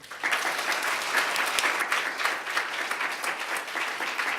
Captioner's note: applause